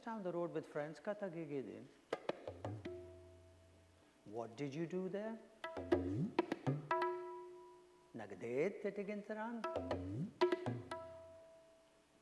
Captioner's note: foreign language